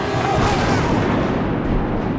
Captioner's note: lightning crashes down again